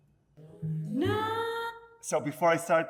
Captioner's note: character vocalising